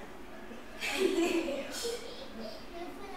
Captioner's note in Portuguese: risos